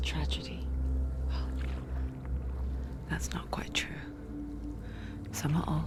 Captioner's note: exhale